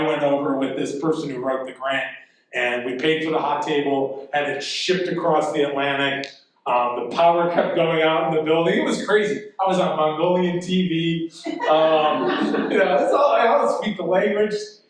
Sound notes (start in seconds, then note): 11.4 audience laughing